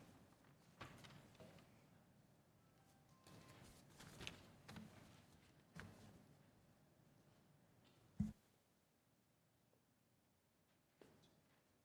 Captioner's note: quiet room